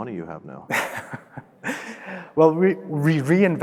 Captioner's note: laughing